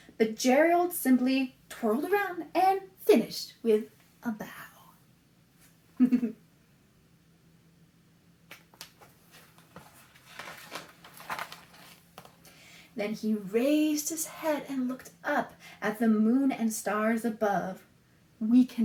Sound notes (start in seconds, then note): 6.0 laughs